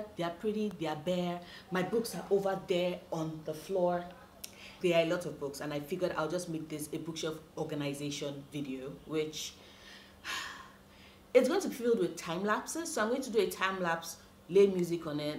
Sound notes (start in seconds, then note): 10.2 sigh